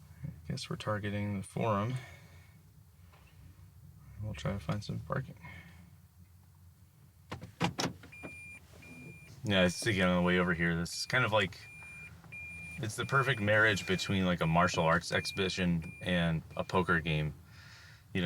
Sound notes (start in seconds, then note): 7.5 locks clicking